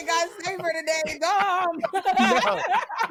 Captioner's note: laughter